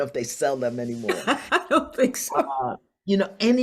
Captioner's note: laughs